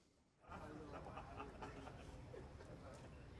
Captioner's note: laughing